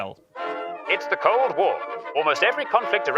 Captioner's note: old news voice